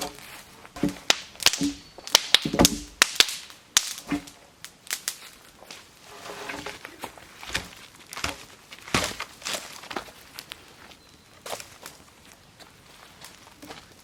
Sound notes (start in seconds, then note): 1.5 fire popping